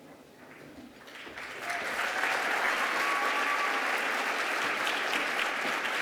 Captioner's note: applause